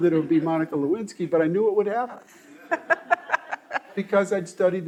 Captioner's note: all laughing